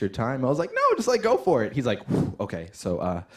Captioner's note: exhales deeply; inhales deeply